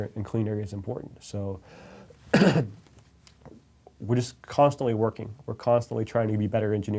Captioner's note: coughs